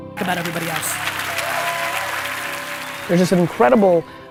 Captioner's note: applause